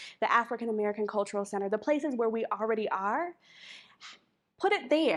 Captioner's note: none